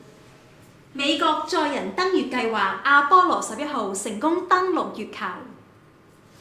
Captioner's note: in Cantonese